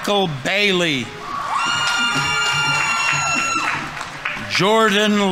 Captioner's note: audience members cheering; audience applauding